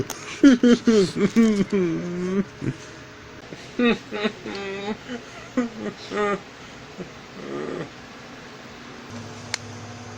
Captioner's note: Shauna Crying